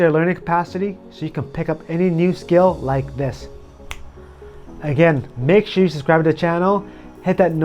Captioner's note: snap